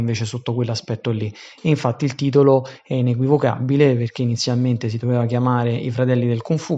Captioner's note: Italian